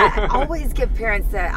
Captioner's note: laughing